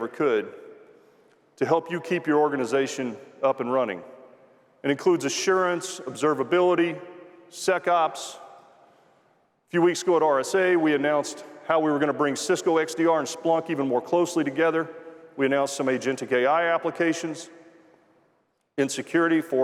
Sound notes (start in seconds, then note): none